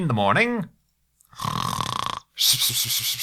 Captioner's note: snore